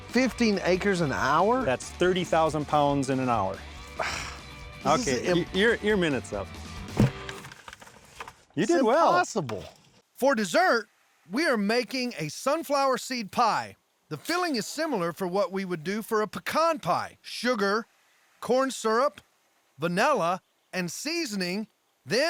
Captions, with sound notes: 15 ACRES AN HOUR? THAT'S 30,000 POUNDS IN AN HOUR. [SIGHS] THIS IS... OKAY, YOUR MINUTE'S UP. [THUD] IT'S IMPOSSIBLE! FOR DESSERT, WE ARE MAKING A SUNFLOWER SEED PIE! THE FILLING IS SIMILAR FOR WHAT WE WOULD DO FOR A PECAN PIE: SUGAR, CORN SYRUP, VANILLA AND SEASONING.